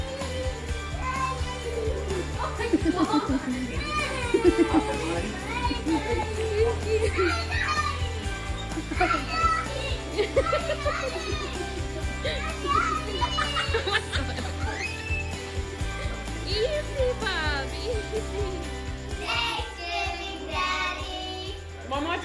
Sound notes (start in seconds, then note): 3.7 child cheering; 13.6 everyone laughing